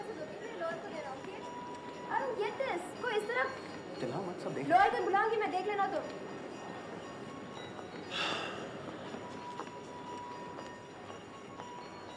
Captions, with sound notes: - I don't get this. (speaking foreign language)